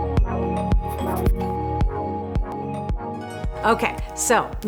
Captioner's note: text scribbles